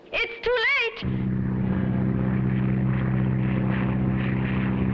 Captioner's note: plane droning